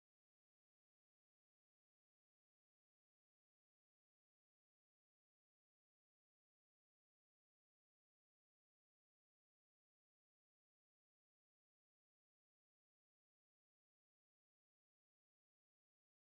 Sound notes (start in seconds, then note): none